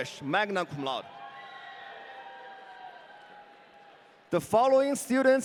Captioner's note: audience cheering